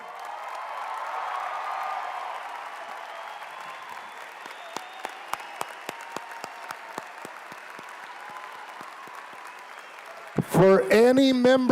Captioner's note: applause